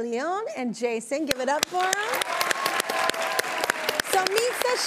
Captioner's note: audience applauding